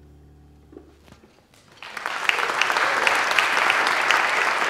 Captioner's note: applause